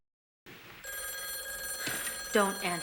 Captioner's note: telephone rings